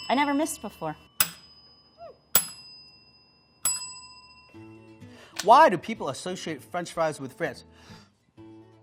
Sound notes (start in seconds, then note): 0.0 bell ringing